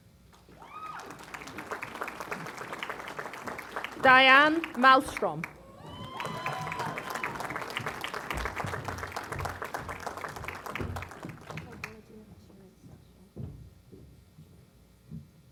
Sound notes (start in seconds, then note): 0.3 applause